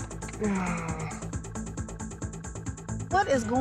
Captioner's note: sighs